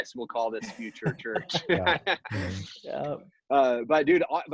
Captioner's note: laughing